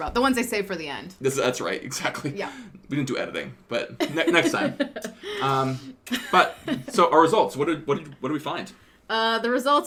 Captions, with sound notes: -All the big ones. -The ones they save for the end. -That's right, exactly. We didn't do editing, but next time. [laughter] Our results, what did we find?